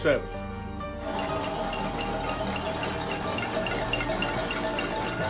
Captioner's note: people clapping and cheering